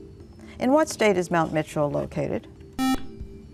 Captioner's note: buzzer